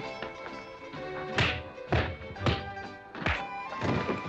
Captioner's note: pop, pop, pow, bam; thump